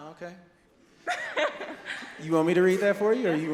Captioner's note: laughs